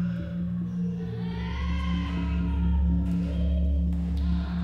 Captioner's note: children crying